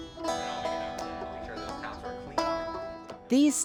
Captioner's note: students and instructor chattering off microphone